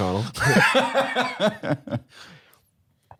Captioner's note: laughs; chuckles